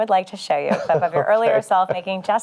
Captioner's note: chuckling